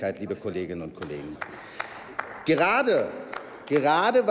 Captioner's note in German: Applaus